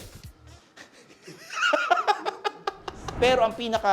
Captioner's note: laughs